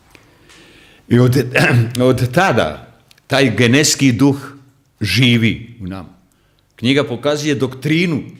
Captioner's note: coughs